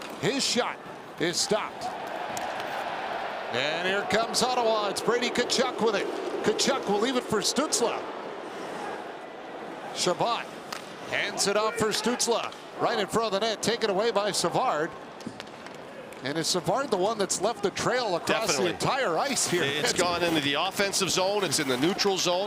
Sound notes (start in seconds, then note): 8.6 cheering; 11.4 booing